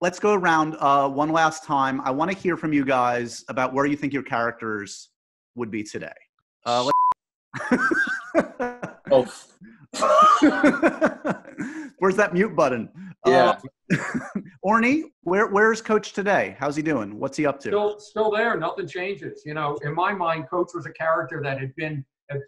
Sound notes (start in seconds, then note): 6.8 beep; 7.6 laughing